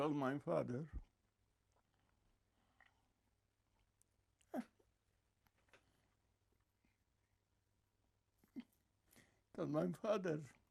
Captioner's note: crying; pauses 8 seconds